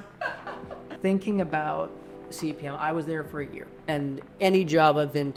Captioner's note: laughs